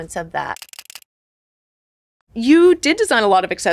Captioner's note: camera snapping